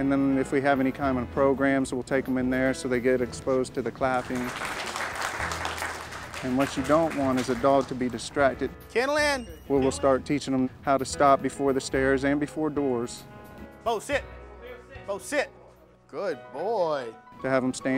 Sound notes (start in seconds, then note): 4.1 applause